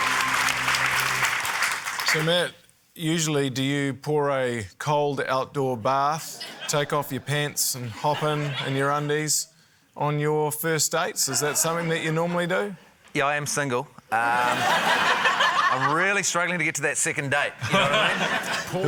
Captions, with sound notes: - So, Matt, usually, do you pour a cold outdoor bath, take off your pants, and hop in in your undies on your first dates? Is that something that you normally do? - Yeah, I am single. Um... (LAUGHTER) I'm really struggling to get to that second date, you know what I mean?